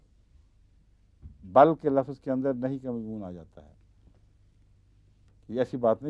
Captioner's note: Arabic